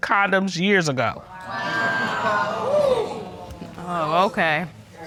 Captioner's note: audience exclaiming